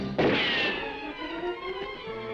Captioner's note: guns firing; dramatic music